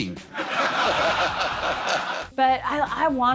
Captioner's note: audience laughing